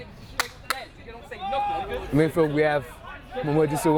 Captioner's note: players shouting